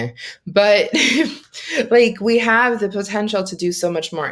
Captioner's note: laughing